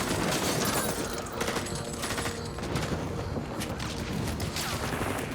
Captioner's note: gunfire